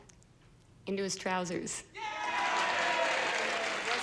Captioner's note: audience cheering